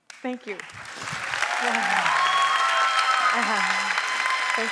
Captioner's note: applause